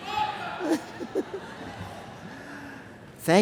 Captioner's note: laughter